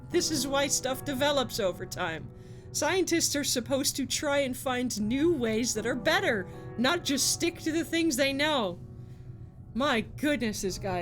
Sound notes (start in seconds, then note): none